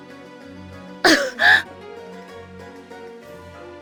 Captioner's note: cough